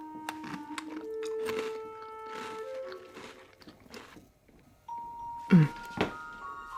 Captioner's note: cookie crunching